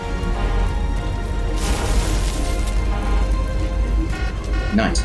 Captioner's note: alarms blaring and getting faster